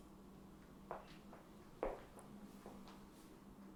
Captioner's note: footsteps fading